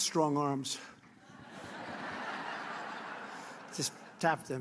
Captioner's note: laughter